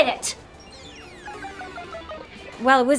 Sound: sad video game bleep

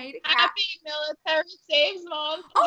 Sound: audio distorting

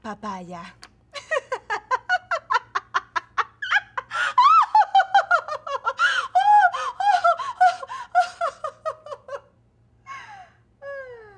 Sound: Paloma laughs hysterically

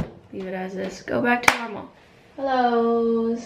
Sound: clap

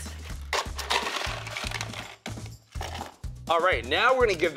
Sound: ice cubes clattering

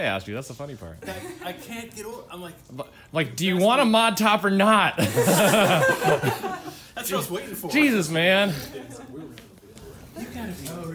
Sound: laughter

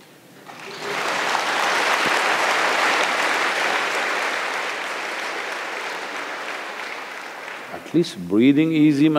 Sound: applause

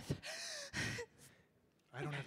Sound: panting

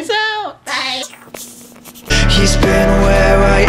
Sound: static noise with mouth

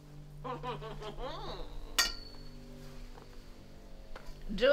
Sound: laughing

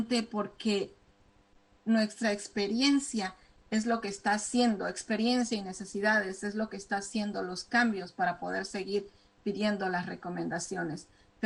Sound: speaking spanish

